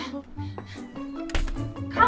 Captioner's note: door closes